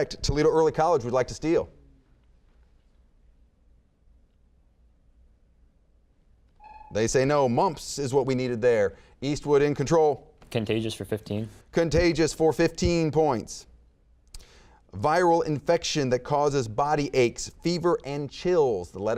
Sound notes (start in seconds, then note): 6.6 buzzer beeping